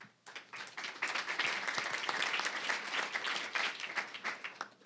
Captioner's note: applause